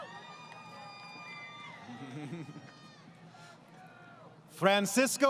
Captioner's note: crowd Cheering